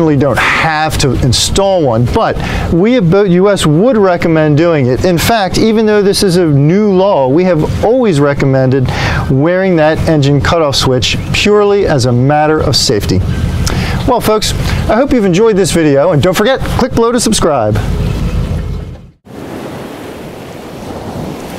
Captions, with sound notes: don't have to install one, but we at BoatUS would recommend doing it. In fact, even though this is a new law, we have always recommended wearing that engine cutoff switch purely as a matter of safety. Well, folks, I hope you've enjoyed this video and don't forget, click below to subscribe. [WAVES CRASHING]